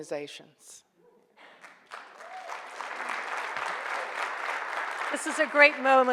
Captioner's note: audience applauds